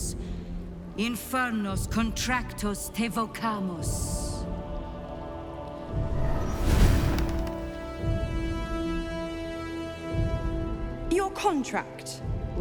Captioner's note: scroll unrolling, fire flaring